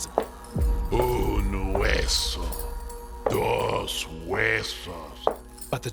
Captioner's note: El Silbón speaking Spanish